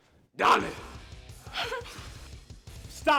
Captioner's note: Spanish; Suzette whimpering and in pain